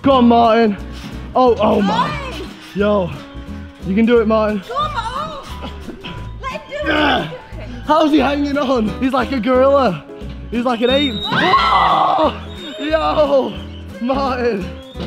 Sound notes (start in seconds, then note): 6.8 grunts; 11.4 yelling